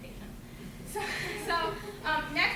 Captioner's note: laughter